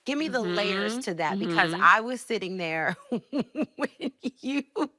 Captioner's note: laughing